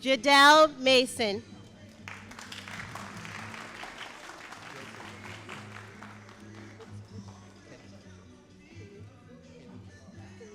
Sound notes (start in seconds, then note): 1.9 all applauding